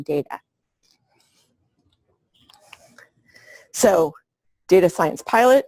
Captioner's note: pause